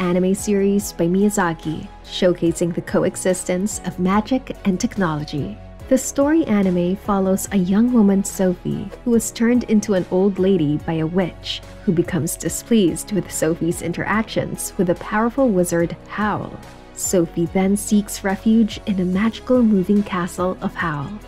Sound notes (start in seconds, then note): none